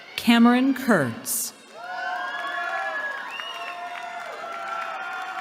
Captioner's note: cheering